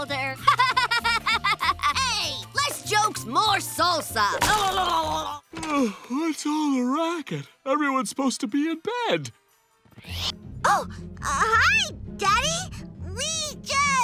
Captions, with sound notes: [laughing] Hey, less jokes, more salsa. [yawning] What's all the racket? Everyone's supposed to be in bed. Oh. Hi, Daddy. We just...